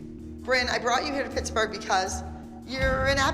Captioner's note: none